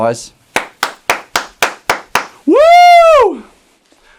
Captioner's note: applauds